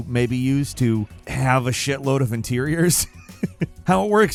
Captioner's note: laughs